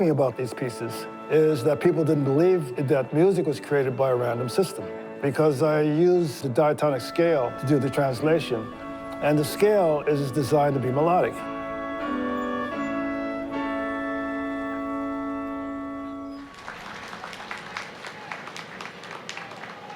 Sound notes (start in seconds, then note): 12.3 classical music continues; 16.4 audience claps